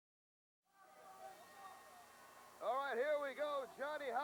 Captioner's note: crowd chatter